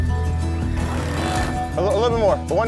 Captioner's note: sander grinding